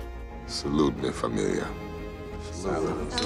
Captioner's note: speaking spanish